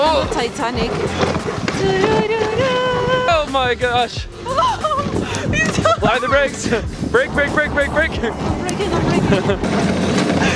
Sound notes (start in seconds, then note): 0.0 speaks in foreign language; 1.8 singing song; 4.4 shrieking